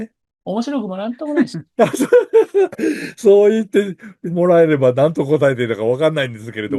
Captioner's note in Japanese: 笑い